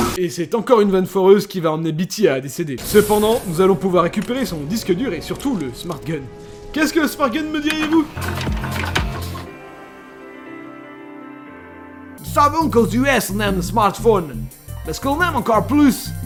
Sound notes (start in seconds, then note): 12.4 french with a very big texan accent